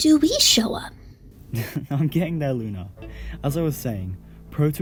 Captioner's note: chuckles